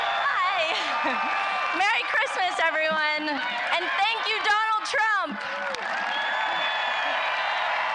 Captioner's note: applause